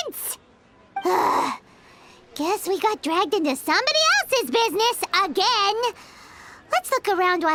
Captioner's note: sigh